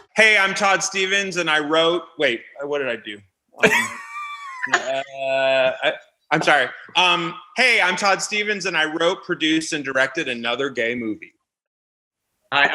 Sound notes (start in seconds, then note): 3.6 laughing